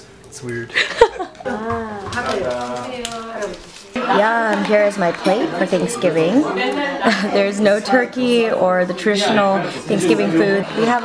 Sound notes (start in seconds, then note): 0.8 laughing; 2.2 speaking foreign language